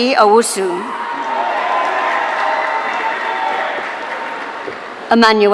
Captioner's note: audience cheering